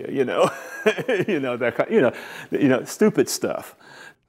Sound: laughs

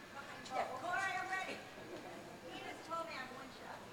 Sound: crowd chatters

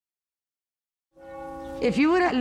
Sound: bell tolls

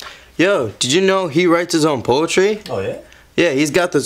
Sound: none

